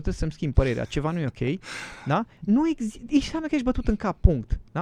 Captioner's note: sigh